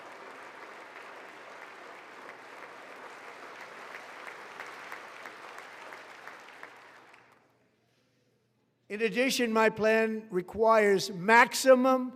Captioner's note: applause